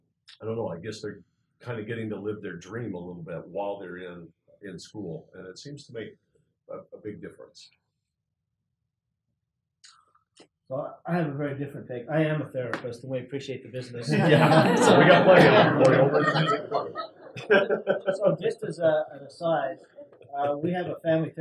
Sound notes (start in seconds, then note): 13.9 laugh